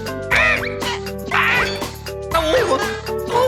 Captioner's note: grunting